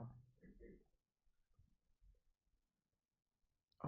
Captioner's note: coughing